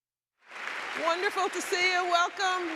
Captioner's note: audience applauding